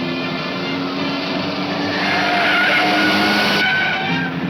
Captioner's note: tires squealing